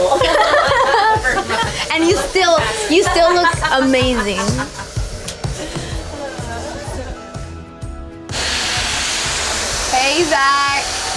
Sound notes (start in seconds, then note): 0.0 group laughing; 4.8 laughing; 6.9 bright gentle music; 8.2 hair blower blowing